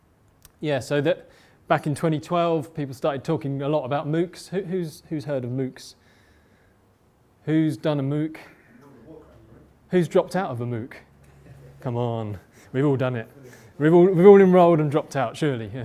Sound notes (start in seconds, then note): 8.2 murmur